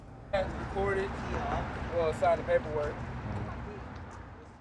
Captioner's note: chattering